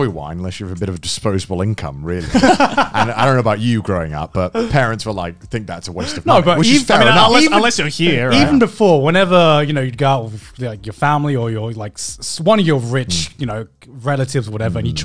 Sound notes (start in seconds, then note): 2.2 laughing